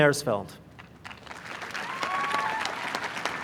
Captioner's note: applause